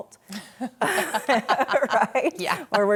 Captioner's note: laughing loudly